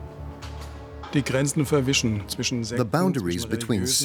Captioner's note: speaking German